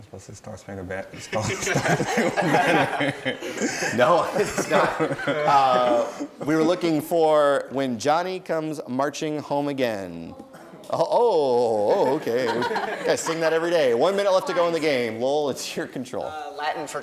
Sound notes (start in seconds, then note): 1.3 laughing; 10.6 groaning; 11.6 laughing